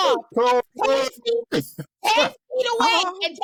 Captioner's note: laughter